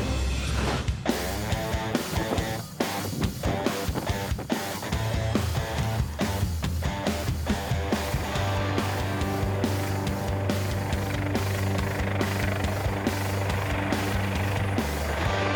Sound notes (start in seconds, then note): 1.4 rock music; 2.4 flag flapping in wind; 6.1 rock music; 11.6 helicopter blades spinning